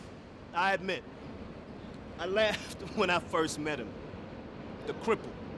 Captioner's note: laughing